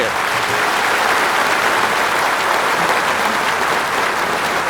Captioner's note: audience applauding